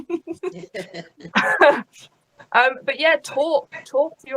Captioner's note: both laughs